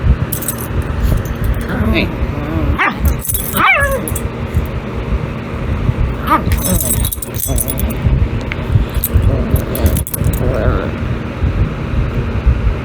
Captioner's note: Caprice's growling stops